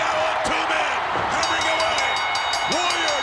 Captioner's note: bell ringing